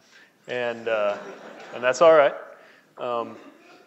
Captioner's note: laughing